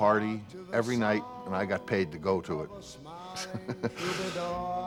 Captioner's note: laughs